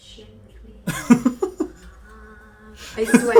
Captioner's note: laughing